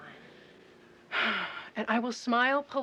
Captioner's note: Kate sighs